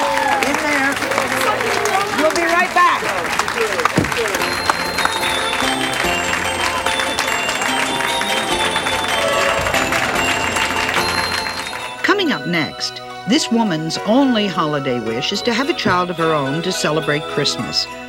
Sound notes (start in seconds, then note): 4.3 cheering; 4.3 holiday music